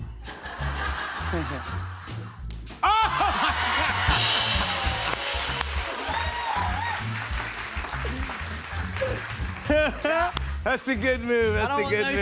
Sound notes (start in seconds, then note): 0.2 laughter; 2.8 laughing; 4.0 applause